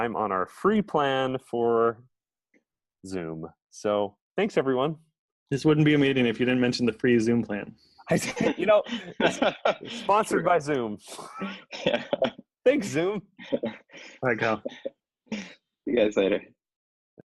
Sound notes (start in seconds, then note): 8.1 laughs